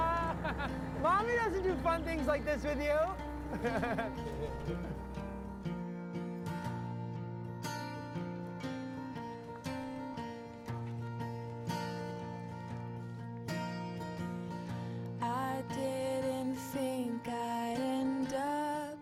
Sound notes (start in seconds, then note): 0.3 Risas; 3.0 ambos rías